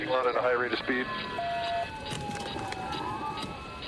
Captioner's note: sirens blaring